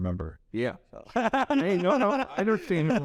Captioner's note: laughs